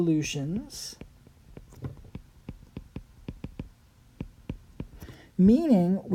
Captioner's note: writing